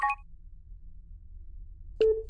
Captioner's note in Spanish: Pitido